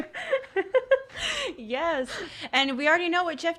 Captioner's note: laughing